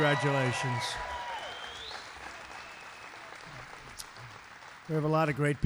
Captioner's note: applause